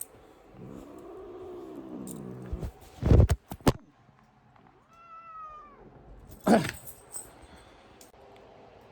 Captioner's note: Caprice growls, then meows in anger